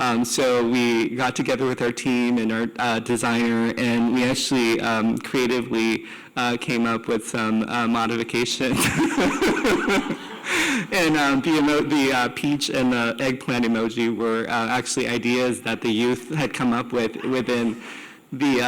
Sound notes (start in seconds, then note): 8.8 laughs